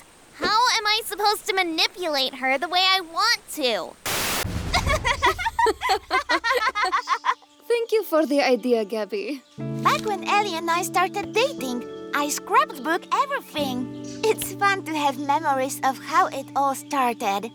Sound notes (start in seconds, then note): 4.7 both laughing